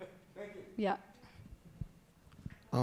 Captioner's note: laughing